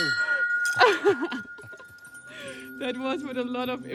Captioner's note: chuckling